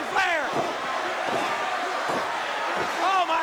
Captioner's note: crowd cheering